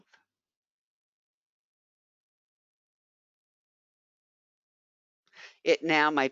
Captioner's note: 5 seconds pause